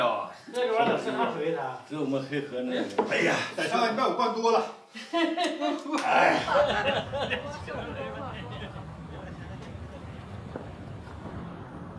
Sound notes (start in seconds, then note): 4.9 laughter